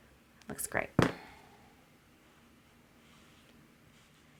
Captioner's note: table thuds